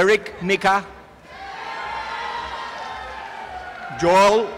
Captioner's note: applause and cheering